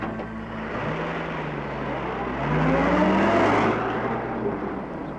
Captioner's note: car engine revving